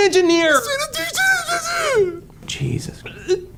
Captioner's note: mocking; host sighs; sobs